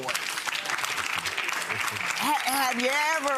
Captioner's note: audience applauding